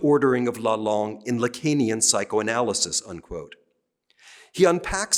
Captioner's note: speaking french